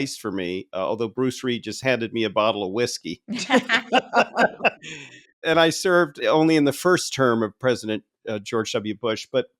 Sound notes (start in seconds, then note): 3.3 laughing